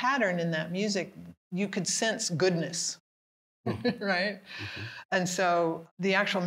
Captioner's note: laughing